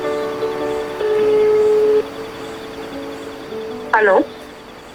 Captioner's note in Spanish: Música dulce de piano; Ring de teléfono